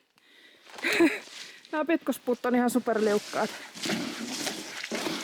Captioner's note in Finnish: heh